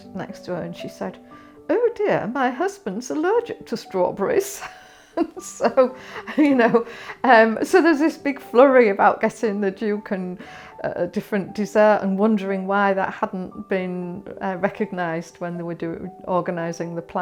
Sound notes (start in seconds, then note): 6.0 laughs